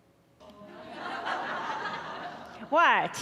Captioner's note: audience laughing